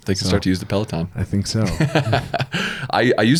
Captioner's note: laughs